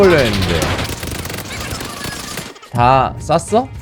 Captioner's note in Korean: m249 한무 연사